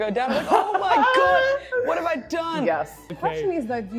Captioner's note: laughs